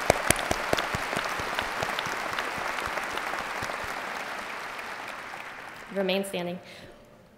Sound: applause

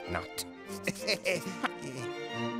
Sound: chuckling nervously

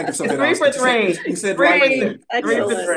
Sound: all laughing

